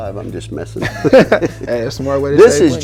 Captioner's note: laughing